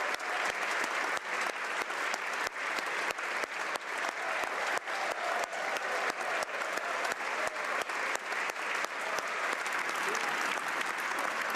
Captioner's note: cheering & Applause